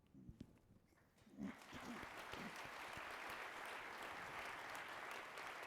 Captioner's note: audience applauding